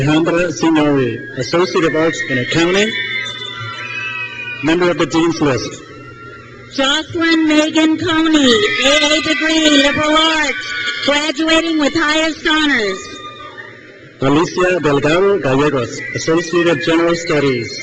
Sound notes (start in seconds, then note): 3.0 crowd cheers; 6.7 crowd cheers; 12.7 crowd cheers; 17.6 crowd cheers